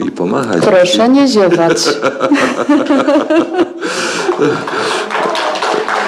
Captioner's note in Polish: śmiech